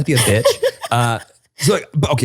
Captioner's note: laughter continues